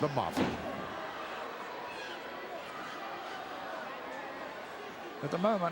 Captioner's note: crowd murmuring